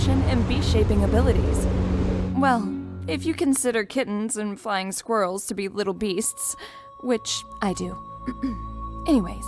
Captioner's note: clears throat